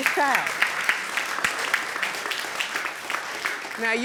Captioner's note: audience applauding